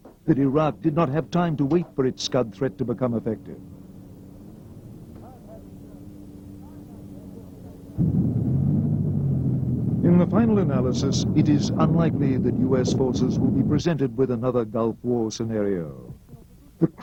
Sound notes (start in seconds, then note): 10.9 tanks rumbling